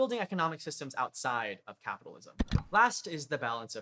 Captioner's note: click